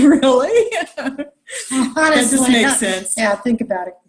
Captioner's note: laughing